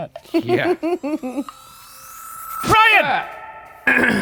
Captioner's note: laughing